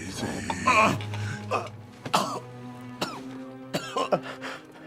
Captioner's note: man groans, coughs